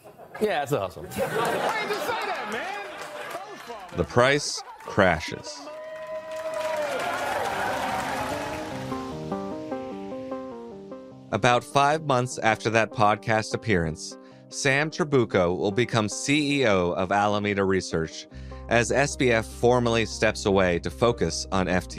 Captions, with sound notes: Yeah, it's a hustle. (Audience laughs) Why didn't ya just say that, man! The price crashes. To the moon! (Audience clapping) About five months after that podcast appearance, Sam Trabucco will become CEO of Alameda Research, as SBF formally steps away to focus on FTX.